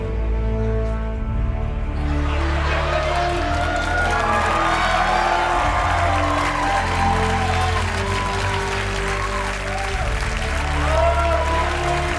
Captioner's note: cheers and applause; laughter